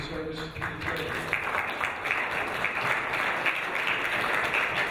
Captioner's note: audience applauding